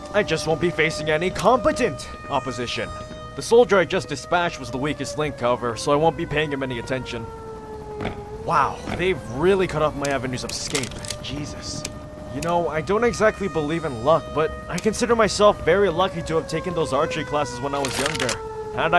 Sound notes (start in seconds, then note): none